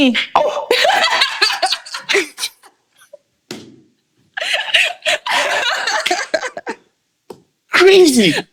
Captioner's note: laughing